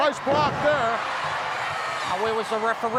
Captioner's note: audience cheering